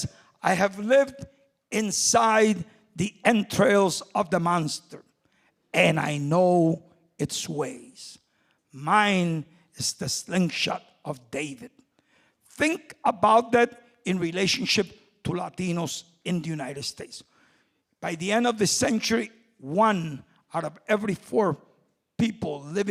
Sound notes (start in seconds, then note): none